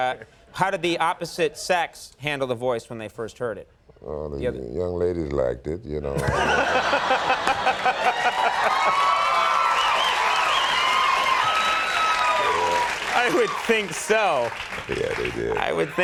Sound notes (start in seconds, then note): 6.1 audience and host laugh; 10.3 audience cheers